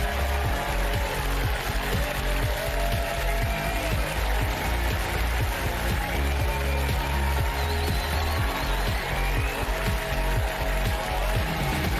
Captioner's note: applause